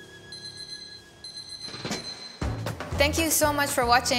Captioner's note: beeping